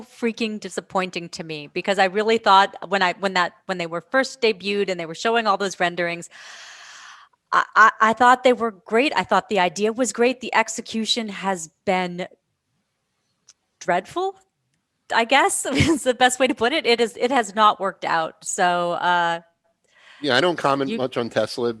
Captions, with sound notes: freaking disappointing to me because I really thought when they were first debuted and they were showing all those renderings. I thought they were great, I thought the idea was great. The execution has been dreadful. I guess. [laughs] The best way to put it, it has not worked out. I don't comment much on Tesla